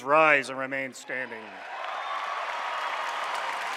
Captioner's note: applause